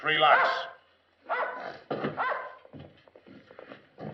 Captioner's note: dogs barking